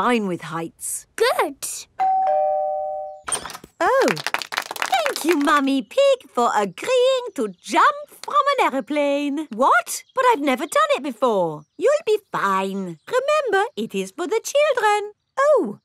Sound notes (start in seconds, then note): 2.0 doorbell ringing; 4.0 crowd applauding